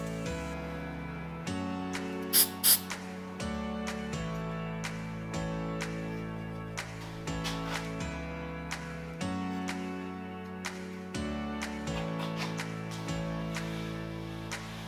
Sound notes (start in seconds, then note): 1.9 upbeat music; 9.9 camera clicking